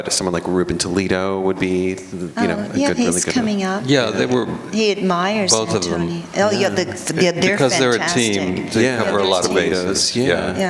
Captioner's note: conversation in unison